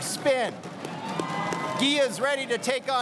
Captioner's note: crowd cheering and applauding